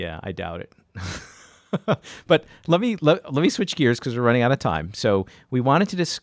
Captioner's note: laughs